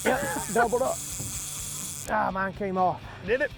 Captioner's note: fishing rods winding